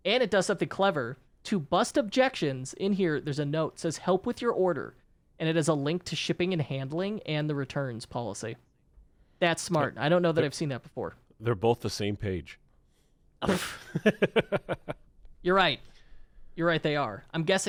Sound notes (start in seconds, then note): 13.4 laughs